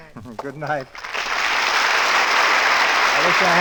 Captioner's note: applause